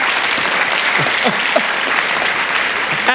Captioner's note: applause